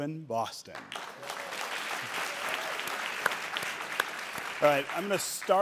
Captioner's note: audience cheering and applauding